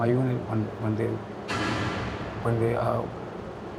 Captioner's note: metal clang, loud white noise